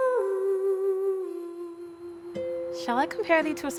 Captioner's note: humming